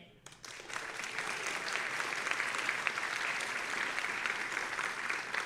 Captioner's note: audience applauding